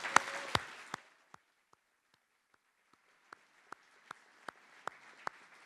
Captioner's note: applause